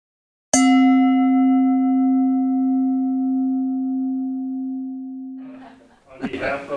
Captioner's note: bell dings